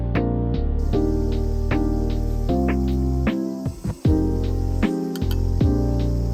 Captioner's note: cicadas chirping